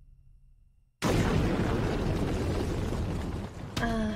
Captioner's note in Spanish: ¡Crash, Bam, Boom!